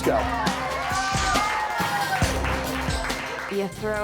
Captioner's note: contestants cheering